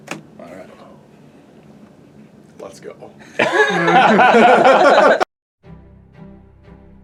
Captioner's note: laughter